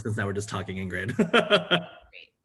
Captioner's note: laughter